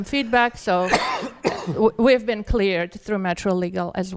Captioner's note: attendee coughing